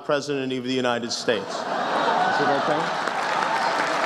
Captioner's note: laughs, applause begins